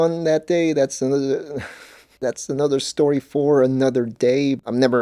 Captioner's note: laughs